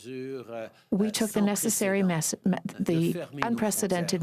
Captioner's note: speaking french